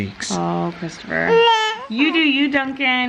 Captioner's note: whines